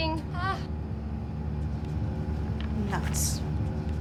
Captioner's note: Lana laughs